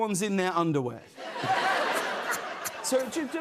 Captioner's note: laughter